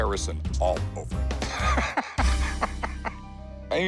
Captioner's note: laughs